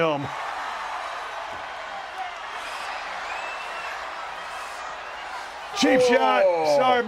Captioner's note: applause